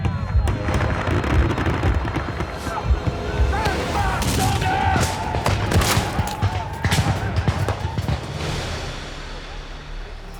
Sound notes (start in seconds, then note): 0.1 gunfire, war sounds; 5.5 gunfire